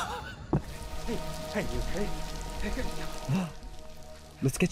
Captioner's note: Katya laughs; rain pours; gasps